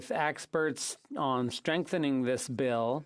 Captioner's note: speaking French